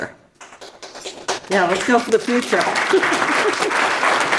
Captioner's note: audience applauds